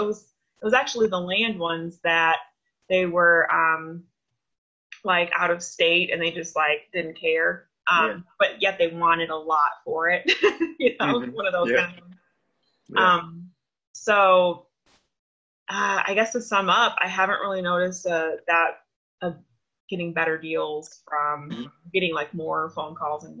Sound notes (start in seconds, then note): 11.0 laughs